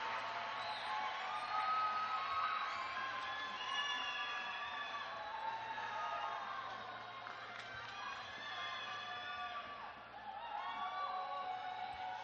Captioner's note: cheers and applause